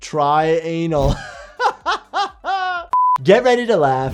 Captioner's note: laughs